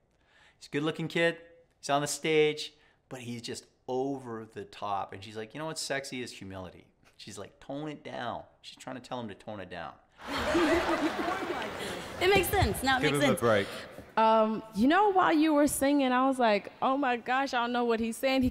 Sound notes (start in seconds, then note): 10.2 audience laughter